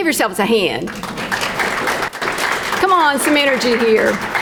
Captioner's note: crowd clapping